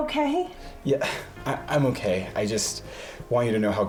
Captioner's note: sighs